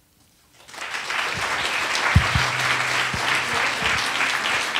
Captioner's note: attendees applauding